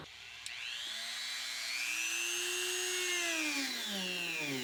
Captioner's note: whirring